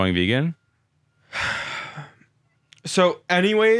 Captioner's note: sighing